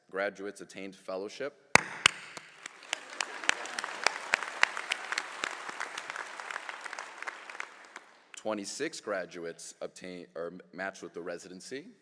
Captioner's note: applause